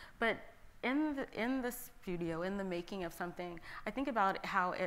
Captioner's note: none